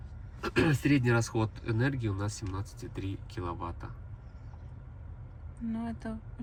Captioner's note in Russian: прокашливается